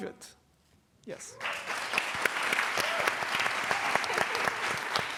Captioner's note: applause